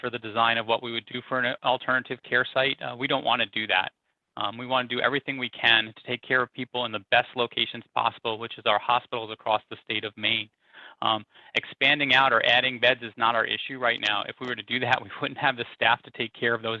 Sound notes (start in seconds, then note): 14.9 laughs